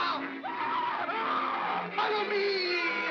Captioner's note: Stan & Ollie scream